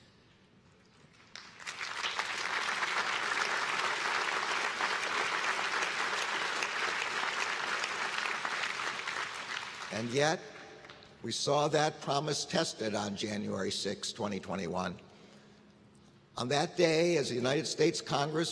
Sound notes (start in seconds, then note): 8.4 applause